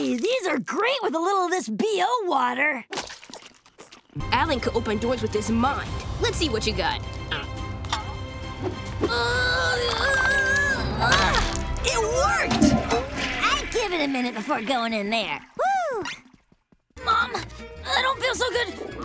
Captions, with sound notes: These are great with a little of this BO water. Alan could open doors with his mind. Let's see what you got. [groaning] It worked! [flushing] I'd give it a minute before going in there. Whoo! Mom, I don't feel so good.